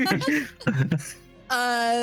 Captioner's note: laughing